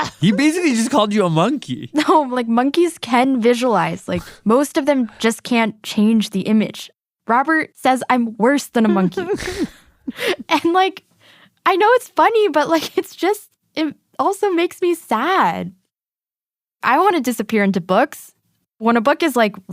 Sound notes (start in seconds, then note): 8.8 laughs